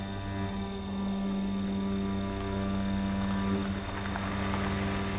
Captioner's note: car rumbling